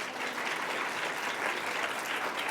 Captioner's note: applause